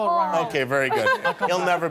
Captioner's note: laughter